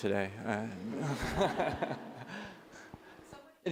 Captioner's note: laughter